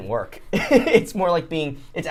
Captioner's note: laughs